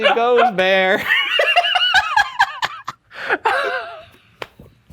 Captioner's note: both laugh